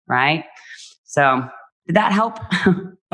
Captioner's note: laughs